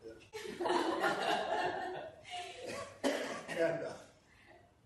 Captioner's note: laughter